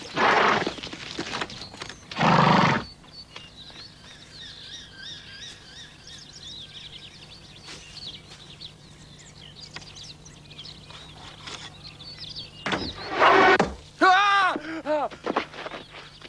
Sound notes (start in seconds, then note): 5.5 leaves rustling; 14.0 scream